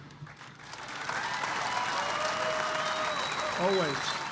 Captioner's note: applause